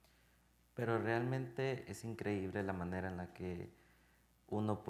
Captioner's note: speaking in Spanish